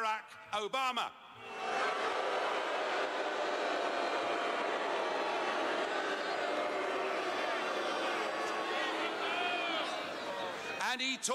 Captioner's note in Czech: Pískání